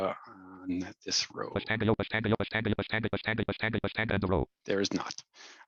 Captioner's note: rapid screen reader audio output